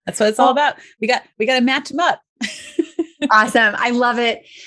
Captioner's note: laughs